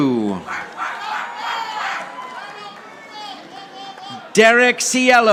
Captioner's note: audience applauding